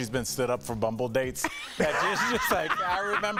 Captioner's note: laughter